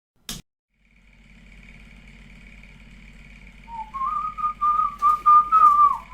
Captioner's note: projector turns on